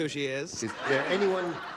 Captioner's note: laughter